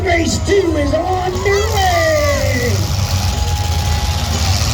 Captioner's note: engines roar; crowd cheers